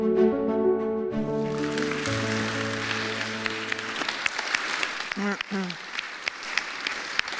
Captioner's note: applause